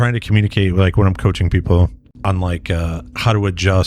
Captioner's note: uh